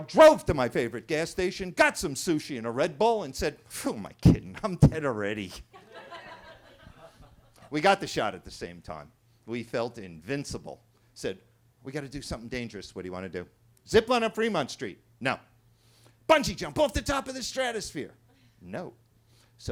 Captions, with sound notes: drove to my favorite gas station, got some sushi and a Red Bull and said, who am I kidding, I'm dead already. (attendees laughing) We got the shot at the same time. We felt invincible. Said, we gotta do something dangerous. What do you wanna do? Zip line on Fremont Street. No. Bungee jump off the top of the stratosphere. No.